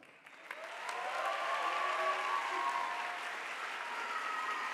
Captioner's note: audience applauding